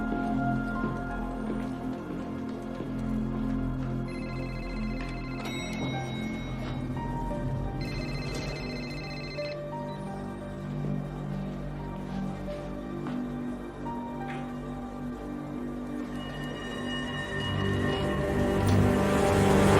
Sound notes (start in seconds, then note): 2.7 phone ringing; 4.4 elevator dinging; 7.8 phone beeps